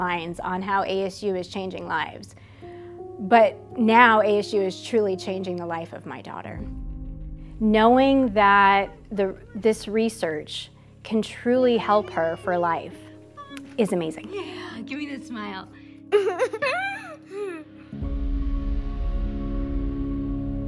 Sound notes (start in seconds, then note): 16.1 laughs; 17.9 ambient music